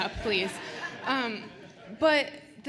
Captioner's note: attendees laughing